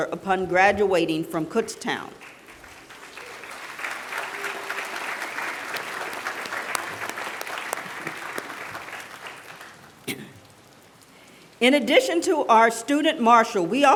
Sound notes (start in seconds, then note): 2.1 applause